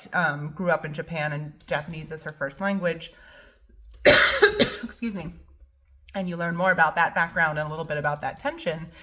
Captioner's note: cough